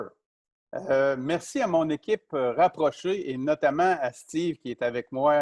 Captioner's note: speaking in foreign language